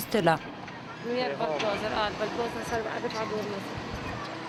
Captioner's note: Hebrew spoken audio